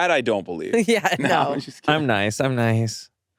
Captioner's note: laughs